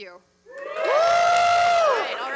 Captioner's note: cheers, applause